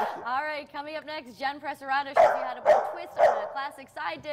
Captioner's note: dog barking